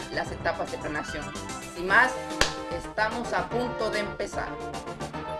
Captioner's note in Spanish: Aplauso